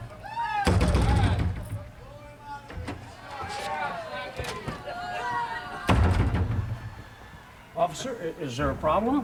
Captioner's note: crowd chatter